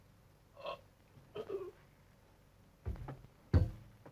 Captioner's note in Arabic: أنطون يتأوه